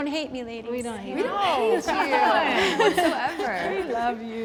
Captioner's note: laughs